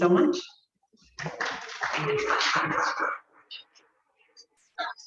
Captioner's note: clapping